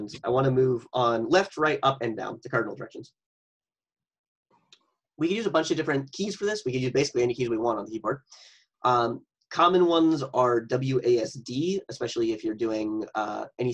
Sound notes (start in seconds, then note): none